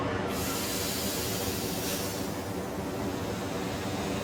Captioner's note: steam hissing